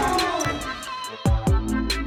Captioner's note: ball slamming; guys cheering; rap music